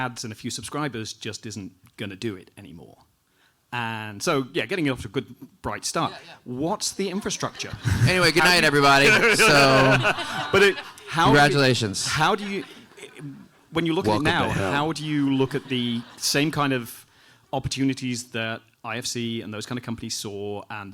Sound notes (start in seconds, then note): 7.2 audience laughing